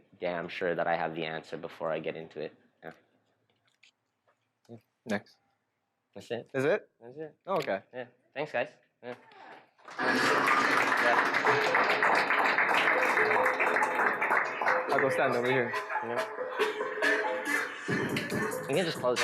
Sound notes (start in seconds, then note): 9.8 applause